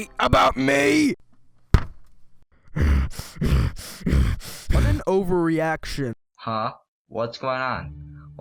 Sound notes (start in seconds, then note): 2.6 huffs and puffs